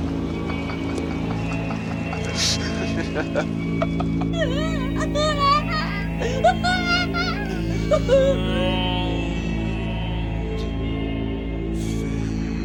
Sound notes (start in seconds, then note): 4.6 bizzare crying; 8.8 atmospheric music plays